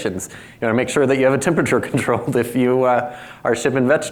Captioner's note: chuckles